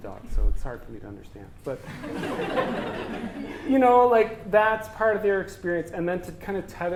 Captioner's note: audience: Laughter